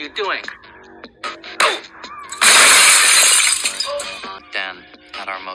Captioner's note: crashes